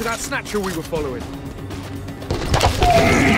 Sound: gunshots

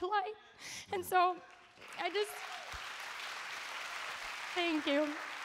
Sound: audience applauds

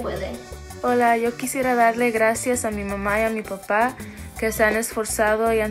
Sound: speaks in foreign language

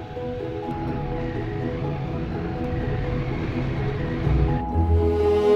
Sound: motorbike roaring; lively music

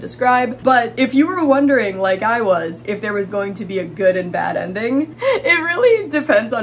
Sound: laughing

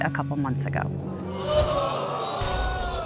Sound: audience exclaiming

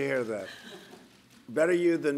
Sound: laughter

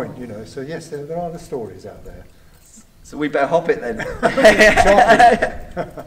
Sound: laughter

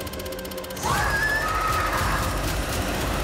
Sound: screaming

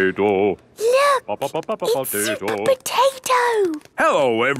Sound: hushed

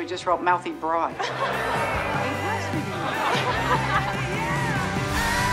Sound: laughter

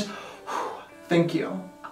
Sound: phew

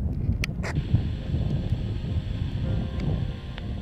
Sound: radio on

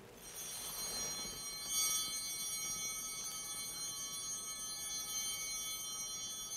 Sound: bell ringing

